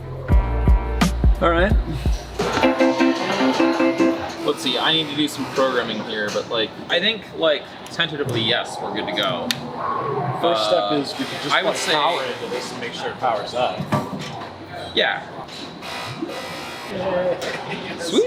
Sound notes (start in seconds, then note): 2.4 ATM beeping